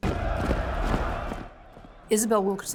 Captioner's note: crowd cheering